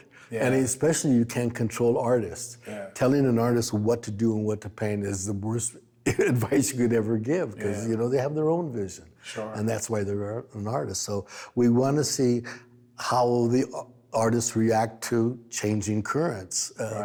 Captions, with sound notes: and, especially, you can't control artists. Telling an artist what to do and what to paint is the worst advice you could ever give, (chuckles) 'cause, you know, they have their own vision. - Sure. - And, that's why they're an artist. So, we wanna see how the artists react to changing currents- - Right.